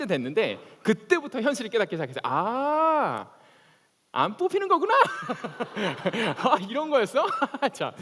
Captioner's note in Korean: 웃음